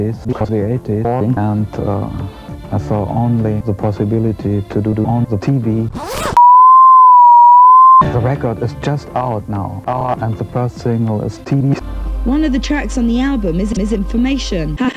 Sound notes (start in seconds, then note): 5.9 unzips pants; 6.4 another distorted sine wave